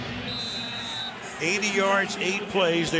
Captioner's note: whistle blows